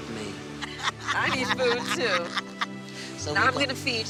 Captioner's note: laughs